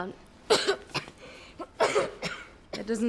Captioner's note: coughs